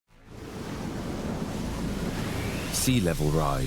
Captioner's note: waves crash